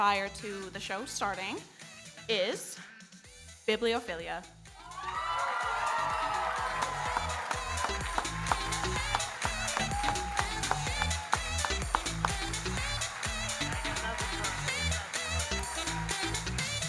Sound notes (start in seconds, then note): 5.5 audience cheering and applauding; 9.9 electronic dance music